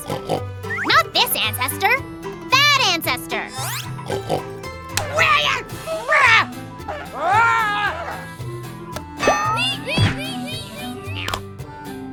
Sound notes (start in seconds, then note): 4.3 yelling; 9.5 squealing